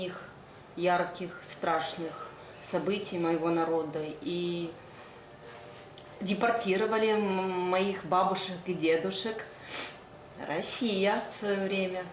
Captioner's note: speaking foreign language